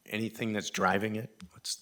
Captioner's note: none